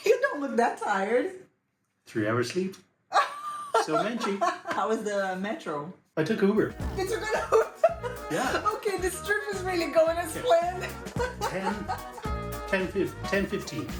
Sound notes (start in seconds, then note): 3.1 laughs; 4.0 in Portuguese; 6.8 laughs